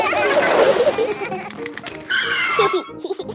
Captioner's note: brakes squealing; giggling